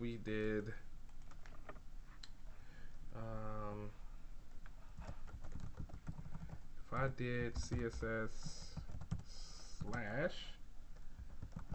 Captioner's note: typing sounds